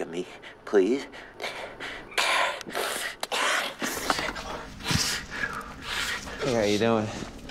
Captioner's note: panic noises